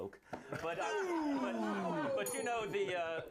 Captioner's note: bell rings